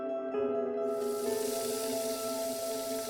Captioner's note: water flowing